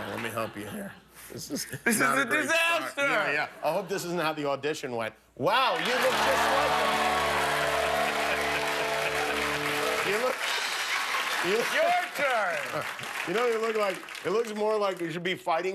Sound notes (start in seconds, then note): 0.0 laughter; 5.7 cheers and applause